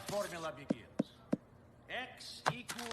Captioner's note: taps paper